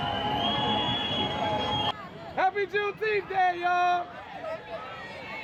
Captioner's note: crowd cheering